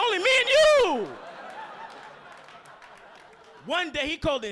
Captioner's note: audience laughing